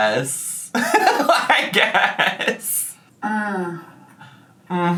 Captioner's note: laughing